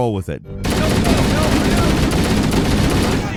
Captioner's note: gun firing